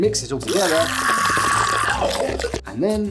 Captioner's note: happy little worm scream